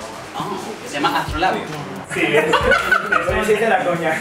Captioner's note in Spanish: risas